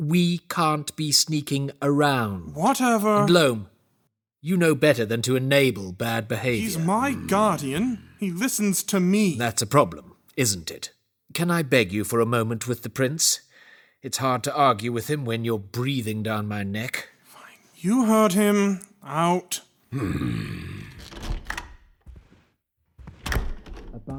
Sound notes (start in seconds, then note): 6.4 Loam grunts apathetically; 19.9 heavy footsteps exiting, and the door closes